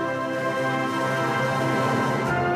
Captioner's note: none